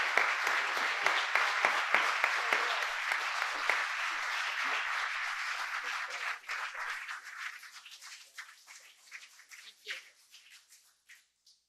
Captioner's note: applause